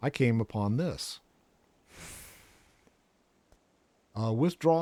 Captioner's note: inhales